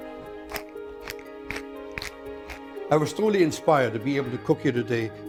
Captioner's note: pepper mill grinding